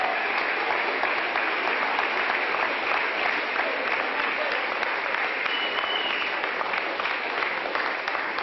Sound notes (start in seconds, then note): 2.9 applause